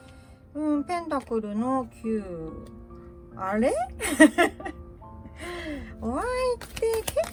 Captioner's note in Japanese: 笑い; 息をのむ音